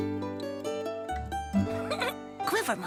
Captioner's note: giggles